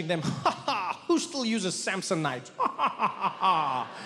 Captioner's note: Trevor laughs; laughs